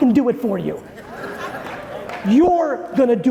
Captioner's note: audience laughing